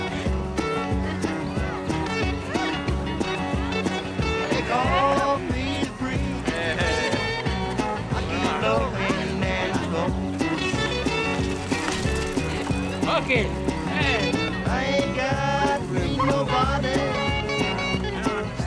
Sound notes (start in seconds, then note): 6.4 laughs; 8.0 chatter; 10.5 bike wheels turning